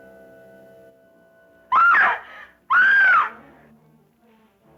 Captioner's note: Pamela screaming